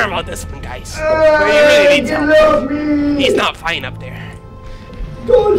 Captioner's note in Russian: рвёт глотку